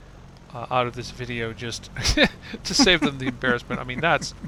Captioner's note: pilot laughs